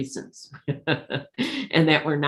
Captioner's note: laughs